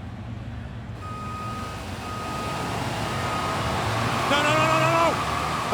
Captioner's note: backup alarm beeping